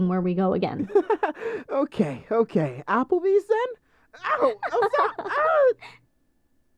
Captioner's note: laughs